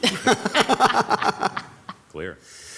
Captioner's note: people laugh